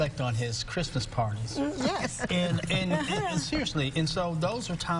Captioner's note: laughter